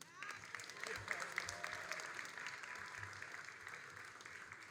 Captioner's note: all applauding